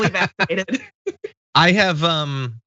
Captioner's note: laugh